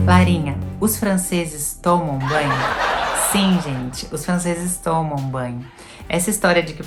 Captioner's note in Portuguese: risos